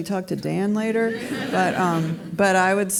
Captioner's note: audience laughs